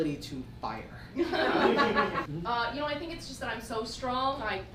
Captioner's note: audience laughs